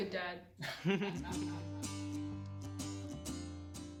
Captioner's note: laughing